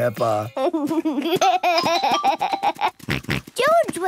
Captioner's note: giggles, snorts